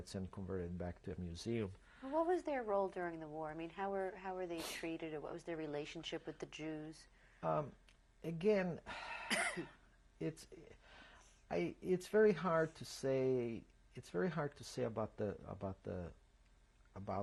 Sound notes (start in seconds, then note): 8.9 sighs